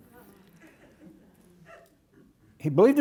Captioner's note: audience laughing